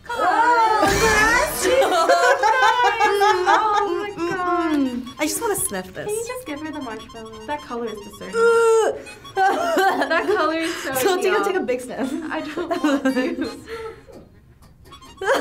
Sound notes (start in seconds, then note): 2.3 laughs; 3.6 humming; 8.2 gags; 9.5 laughs; 14.0 laughs